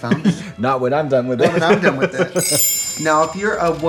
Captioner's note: Katya laughs